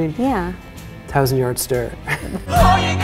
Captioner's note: chuckle